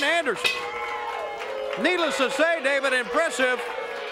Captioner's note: crowd cheering; bell ringing